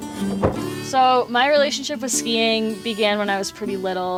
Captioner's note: in English